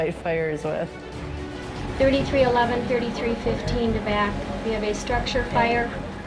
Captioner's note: sound of dispatcher